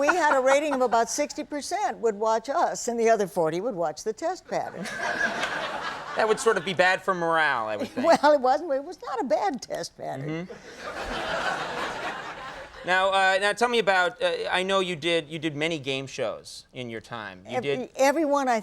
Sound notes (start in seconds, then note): 0.0 laughing; 4.7 laughing; 10.2 laughing